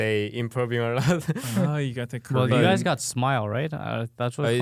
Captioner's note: laughing